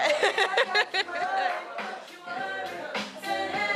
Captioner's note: laughing